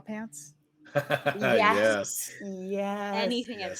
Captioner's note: laughs